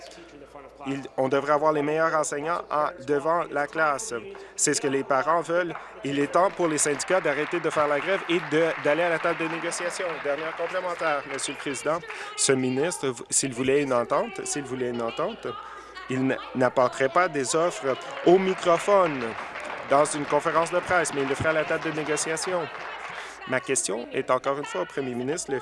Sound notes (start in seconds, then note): 11.3 applause; 24.5 applause